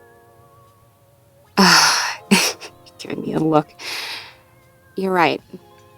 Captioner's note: knowing sigh